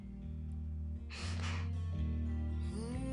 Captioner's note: stomps